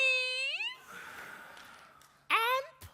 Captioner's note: group exhaling